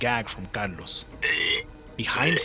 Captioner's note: gagging